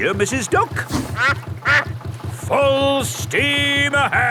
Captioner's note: quacks